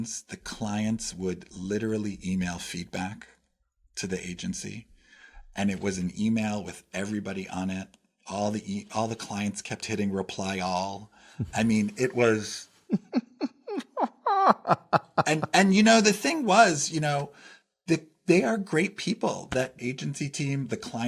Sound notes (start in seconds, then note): 15.4 laugh